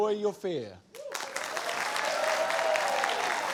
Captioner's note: applause